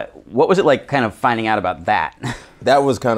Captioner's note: laughs